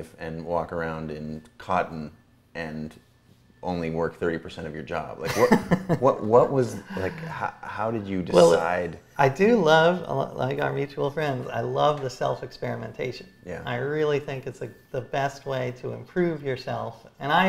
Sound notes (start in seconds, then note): 5.4 A.J. laughs